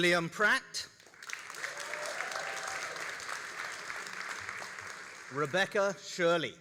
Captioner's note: all applauding and cheering